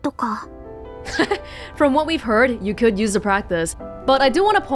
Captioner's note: chuckles